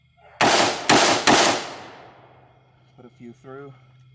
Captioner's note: steady firing